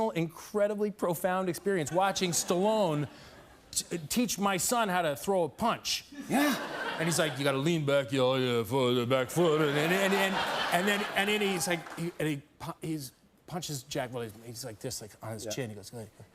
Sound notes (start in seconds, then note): 6.9 as Stallone; 9.6 laughter; 10.0 normal voice